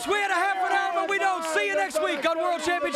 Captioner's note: crowd cheering